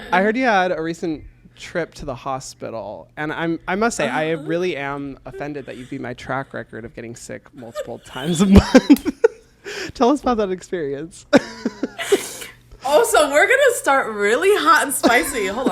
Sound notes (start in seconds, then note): 7.5 both laugh; 12.3 laughs